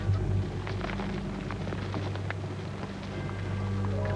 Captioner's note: soup sizzling